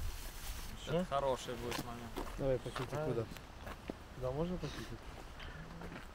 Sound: men speaking foreign language

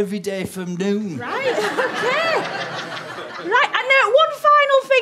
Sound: audience laughter

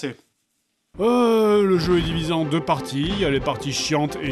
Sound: sigh

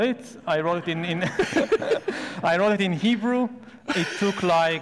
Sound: laughs

